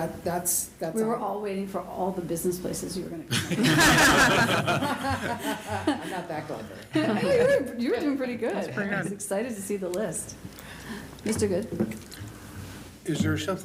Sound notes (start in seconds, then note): 7.0 laughter